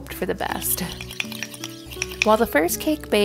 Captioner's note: spoon clinks on bowl